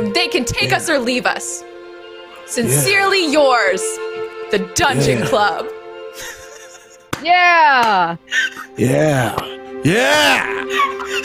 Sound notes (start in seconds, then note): 6.1 chuckling; 7.7 clapping; 9.9 laughing